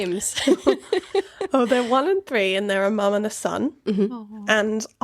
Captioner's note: laughing